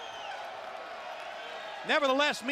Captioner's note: crowd cheering